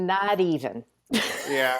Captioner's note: laughs